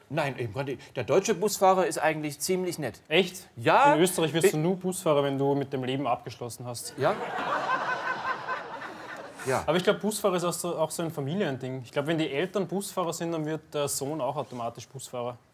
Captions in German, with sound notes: Nein, der deutsche Busfahrer ist eigentlich nett. In Österreich wird Busfahrer nur, wer mit dem Leben abgeschlossen hat. *Lachen* Busfahren ist auch so ein Familiending. Wenn es die Eltern sind, wird es der Sohn automatisch auch.